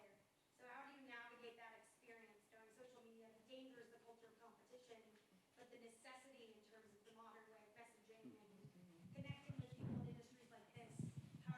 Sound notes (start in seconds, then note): none